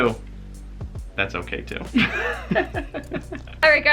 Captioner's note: laughs